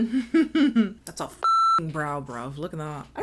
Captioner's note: beep